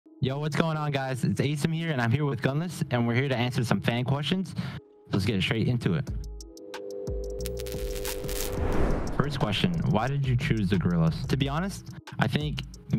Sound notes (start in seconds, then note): 7.4 static; 7.6 whoosh